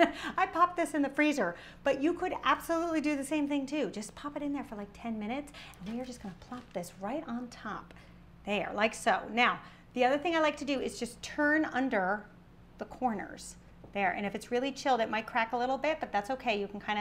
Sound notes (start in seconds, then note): none